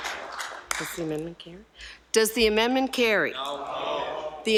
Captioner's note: some Applause